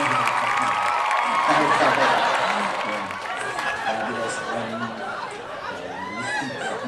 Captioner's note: laugh